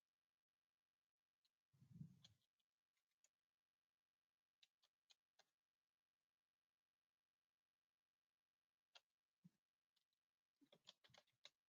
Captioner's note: 20 seconds pause